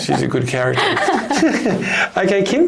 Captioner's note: panellists laugh